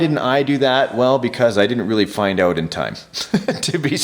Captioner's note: laughing